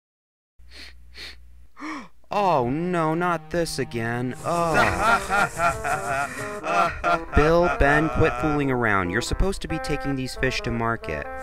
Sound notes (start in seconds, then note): 0.7 whiffing; 1.8 gasp; 4.5 laughter